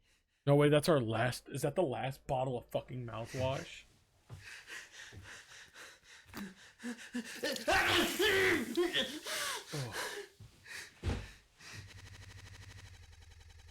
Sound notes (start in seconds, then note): 7.4 liquid sloshes; 9.8 Skull sighs; 9.8 audio stutters